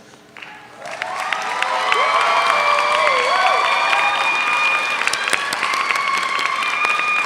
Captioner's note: audience applauds; audience cheers